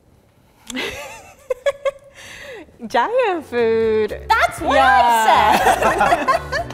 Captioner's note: laughing